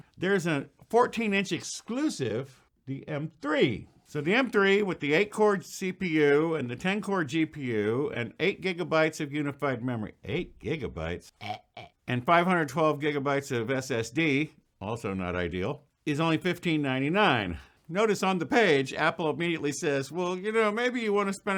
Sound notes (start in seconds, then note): 11.3 gagging noises